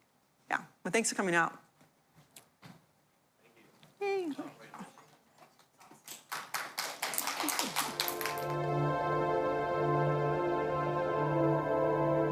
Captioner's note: applause